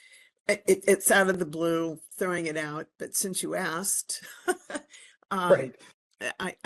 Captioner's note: laugh